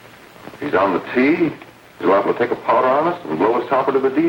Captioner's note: none